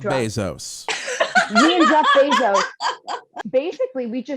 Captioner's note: laughs